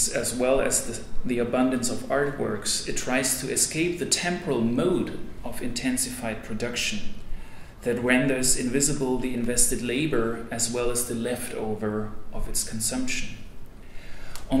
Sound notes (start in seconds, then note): none